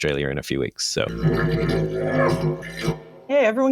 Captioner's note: robotic noise